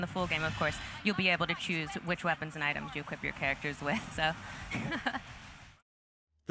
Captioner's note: laughs